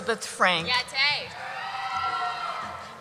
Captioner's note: voiceover; cheering